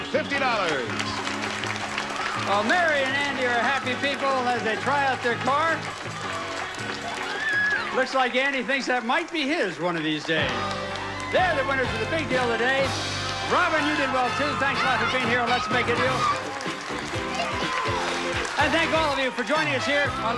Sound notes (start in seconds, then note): 2.9 audience applauding